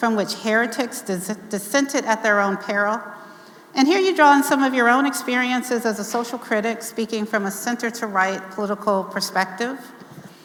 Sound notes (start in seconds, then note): none